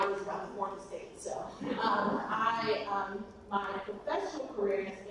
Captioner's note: audience laughs